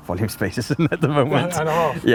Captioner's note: man laughing